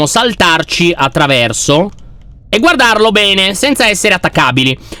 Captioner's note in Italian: none